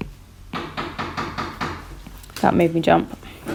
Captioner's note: knocking